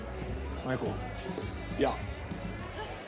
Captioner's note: womemen giggling